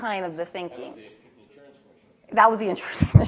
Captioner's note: voiceover